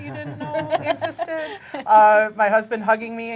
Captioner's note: laughing